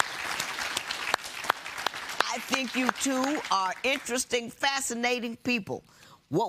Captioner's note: applause